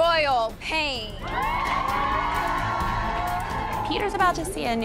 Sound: cheers and applause

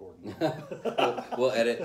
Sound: laughter

